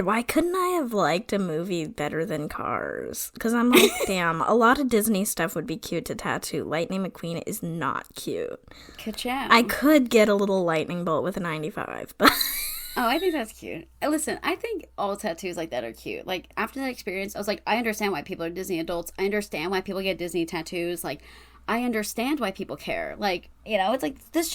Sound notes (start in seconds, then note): 12.3 wheeze laughs